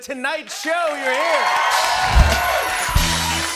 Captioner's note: cheering and applause